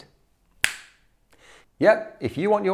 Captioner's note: fingers snap